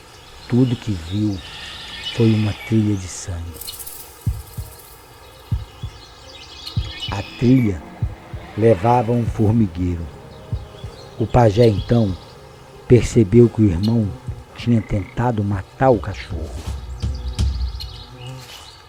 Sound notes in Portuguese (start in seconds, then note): 4.0 Chocalho distante; 5.4 Coração batendo; 12.8 Zumbido; 16.1 Tambores; 17.9 Zumbido